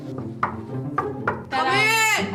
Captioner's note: knocking